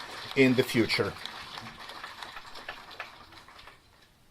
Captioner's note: crowd clapping